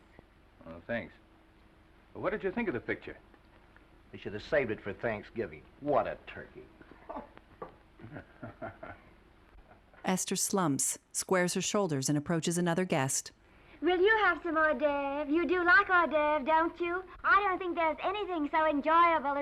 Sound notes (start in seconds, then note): 8.0 man 2 chuckling; 13.7 affected accent